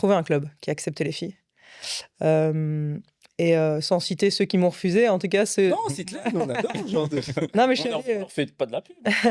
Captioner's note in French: rires